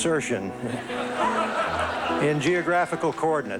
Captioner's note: laughter